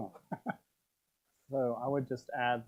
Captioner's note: chuckle